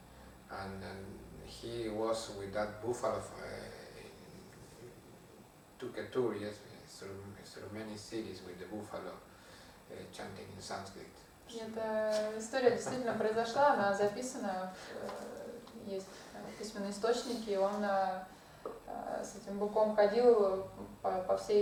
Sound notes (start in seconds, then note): 12.7 hahaha